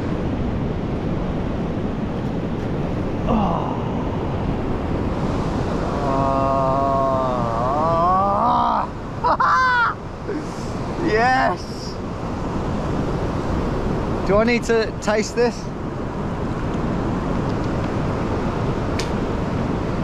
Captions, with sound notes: (sound of waves crashing) (sighs) - Ah! (laughs) - Yes! Do I need to taste this?